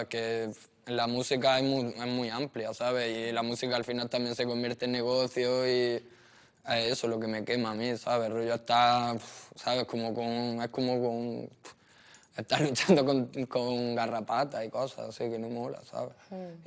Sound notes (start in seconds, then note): none